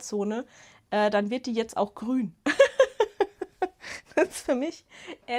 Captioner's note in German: Gelächter